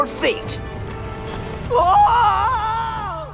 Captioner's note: screaming